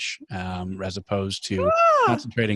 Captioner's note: gasps